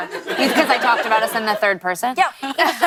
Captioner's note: laughter